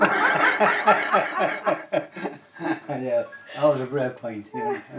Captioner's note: laughing